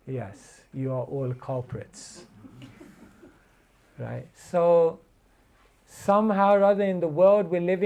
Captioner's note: laughter